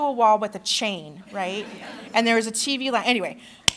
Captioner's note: laughter